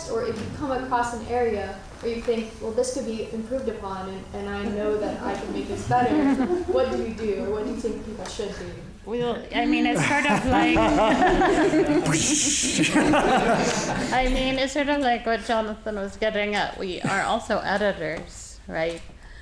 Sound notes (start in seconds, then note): 11.9 audience laughing; 11.9 whooshing